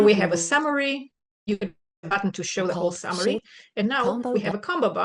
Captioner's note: distortion